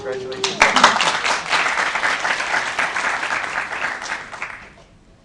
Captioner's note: applause